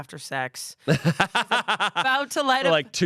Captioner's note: laughs